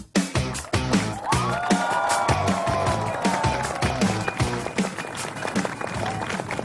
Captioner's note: applause, cheering